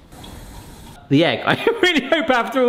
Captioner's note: water running